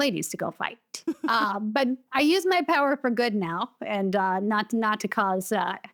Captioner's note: chuckles